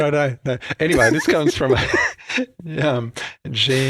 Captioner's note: both laughing